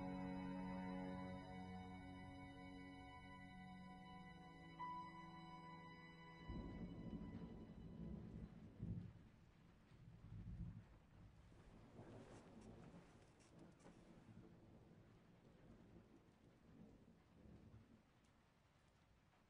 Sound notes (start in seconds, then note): 6.4 thunder outside rumbling